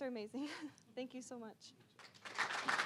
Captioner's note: chuckling; applause